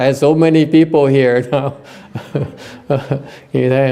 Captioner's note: laughter